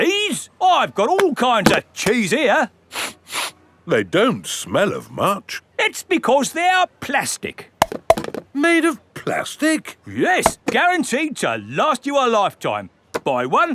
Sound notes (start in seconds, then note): 3.0 sniffs; 8.3 clunks